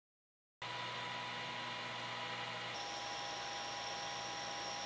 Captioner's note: machine motor hums